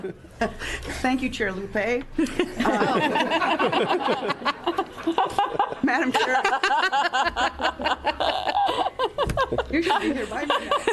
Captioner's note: laughing